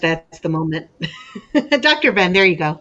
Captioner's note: lady chuckles